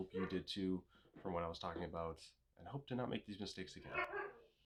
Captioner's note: woofs